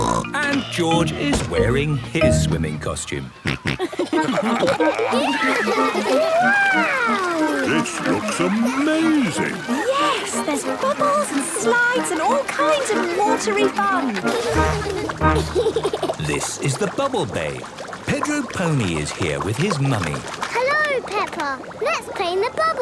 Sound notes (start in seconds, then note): 3.4 snorting, giggling; 14.7 giggles